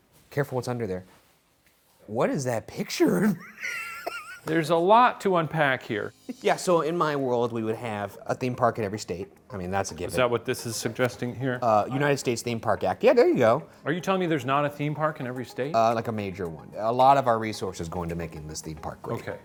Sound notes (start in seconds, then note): 3.2 laughs